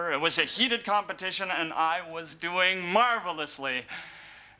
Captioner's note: none